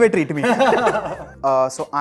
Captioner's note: laughing